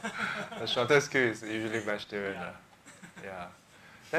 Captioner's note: laughs